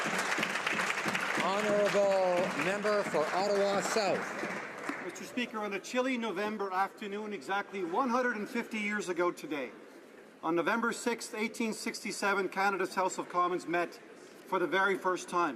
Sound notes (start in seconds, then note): 4.1 some Applause